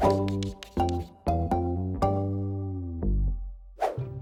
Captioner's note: gentle music; screen whooshing; computer keys clacking; screen whooshing